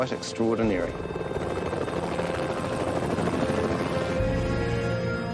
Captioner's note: helicopter thrumming